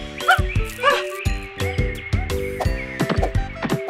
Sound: monkey hoots

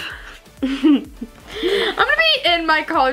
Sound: both laugh

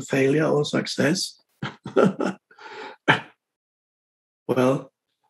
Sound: Eckhart laughs

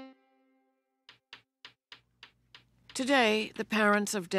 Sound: balls clicking

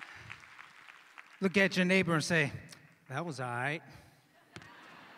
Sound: cheers and applause

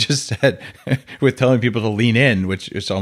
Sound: chuckling

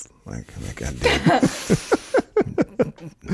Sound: laughing

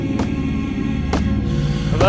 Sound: rock thumping

